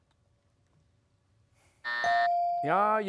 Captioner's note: buzzer; bell dings